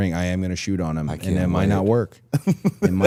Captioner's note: laughing